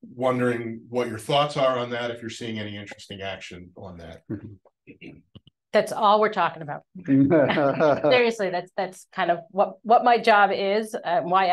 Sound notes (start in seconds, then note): 7.2 panelists chuckling